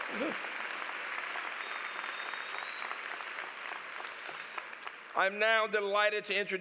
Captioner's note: applause